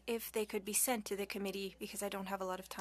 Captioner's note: speaking French